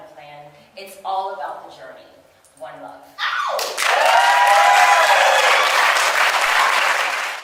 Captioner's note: audience: shouts and applause